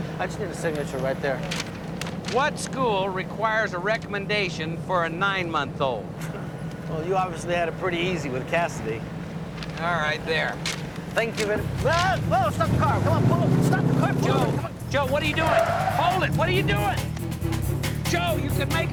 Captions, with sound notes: to waste your time, so I just need a signature right there. What school requires a recommendation for a nine- month-old? Well, you obviously had it pretty easy with Cassidy. All right, there. Thank you very-- Whoa, whoa! Stop the car! Come on, pull over! Stop the car! Pull over! (tires screech) Joe, Joe, what are you doing? Hold it! What are you doing?! Joe, you could make another one!